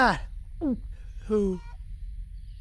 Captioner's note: Otis gulps